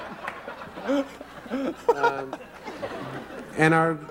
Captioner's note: Tobey Laughs